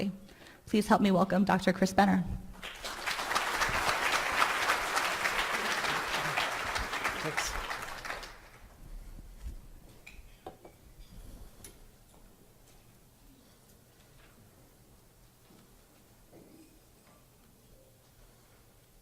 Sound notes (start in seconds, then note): 2.5 applause